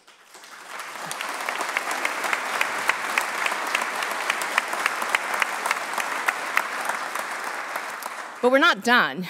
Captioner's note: applause